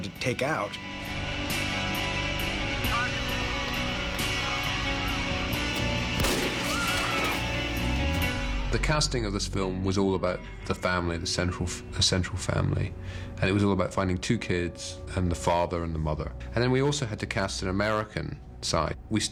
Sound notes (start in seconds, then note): 6.1 gunshot; 6.6 scream